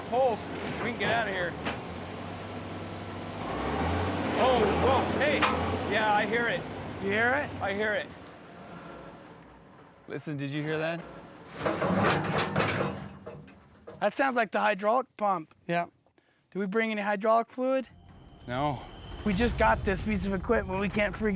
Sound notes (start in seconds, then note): 3.2 motor running then revving; 9.3 whirring sound; 11.4 loud clanking sound